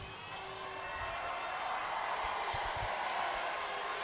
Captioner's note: audience cheers